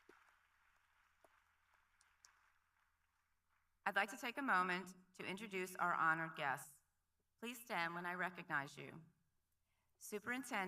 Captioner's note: applause